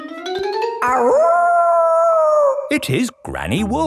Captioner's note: howling; kids yelling